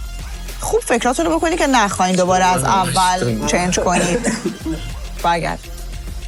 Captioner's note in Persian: خنده